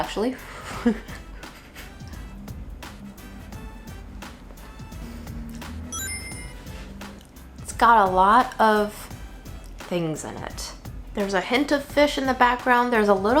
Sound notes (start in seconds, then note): 0.4 laughing; 1.1 air blowing; 5.9 chimes tinkling